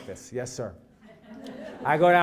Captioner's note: laugh